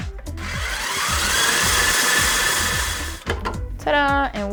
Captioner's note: mixer whirs